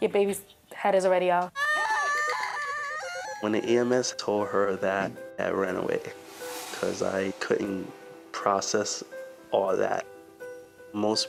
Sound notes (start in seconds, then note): 1.5 screams